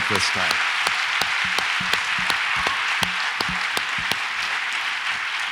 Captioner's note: audience applauds and cheers